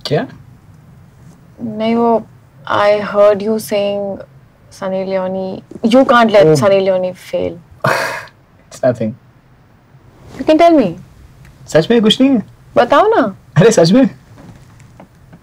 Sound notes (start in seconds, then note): 7.8 chuckles